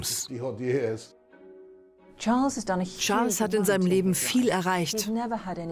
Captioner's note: voiceover